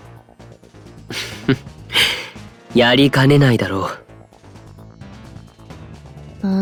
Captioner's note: laugh